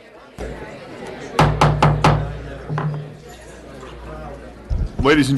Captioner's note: gavel